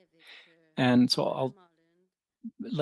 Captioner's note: speaking French